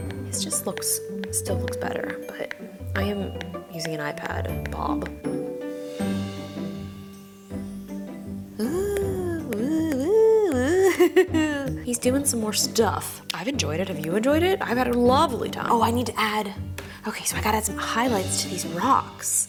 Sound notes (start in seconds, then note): 5.2 cheery music; 8.8 laughing